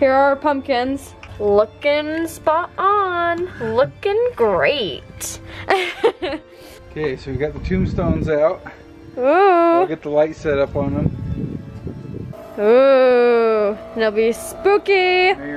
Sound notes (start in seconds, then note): 5.4 laughs